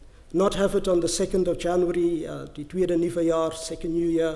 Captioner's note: french